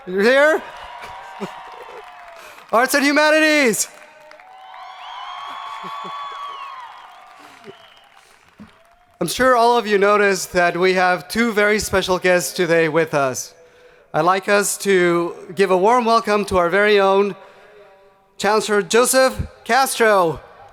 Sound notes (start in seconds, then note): 1.0 crowd applauding; 4.5 crowd applauding